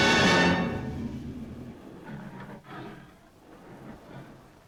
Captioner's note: beast growling